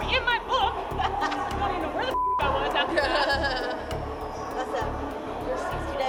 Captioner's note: laughs